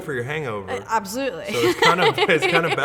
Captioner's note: laughs